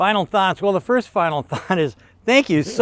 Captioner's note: chuckles